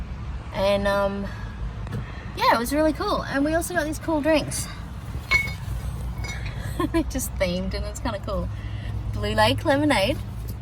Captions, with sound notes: and um, yeah, it was really cool! And we also got these cool drinks. [glass bottles clink] [chuckles] They're just themed and it's kind of cool. Blue Lake Lemonade.